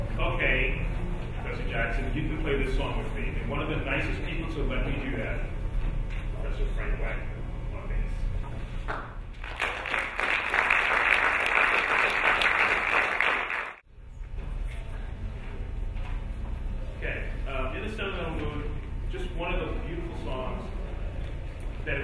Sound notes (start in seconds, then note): 9.3 applauding